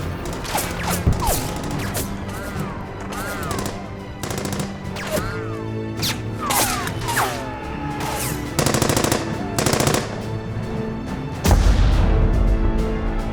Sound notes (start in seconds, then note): 0.0 weapons firing